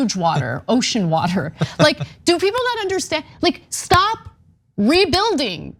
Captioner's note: laugh